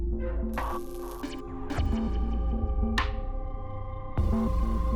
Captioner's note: static hisses